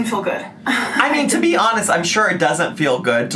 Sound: laughing

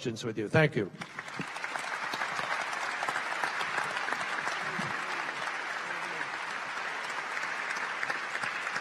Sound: applause

